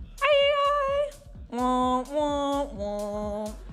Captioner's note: humming